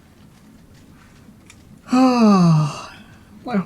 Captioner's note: exhales